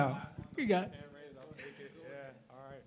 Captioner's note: attendee chattering